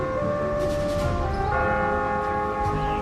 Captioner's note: bell tolling